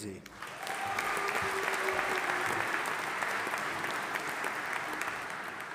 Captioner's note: audience applauding and cheering